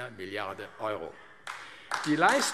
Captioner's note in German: Beifall AfD